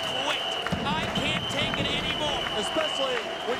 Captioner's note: whistle blowing